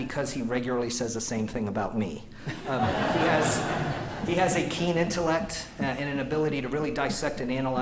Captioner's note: laughter